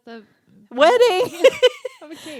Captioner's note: both laughing